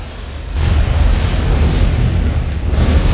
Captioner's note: explosions